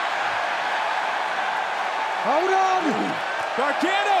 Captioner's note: crowd cheering